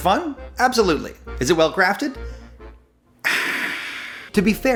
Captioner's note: sighs loudly